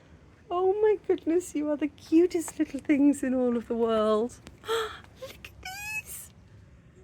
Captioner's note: gasp